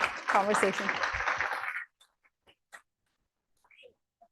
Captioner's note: applause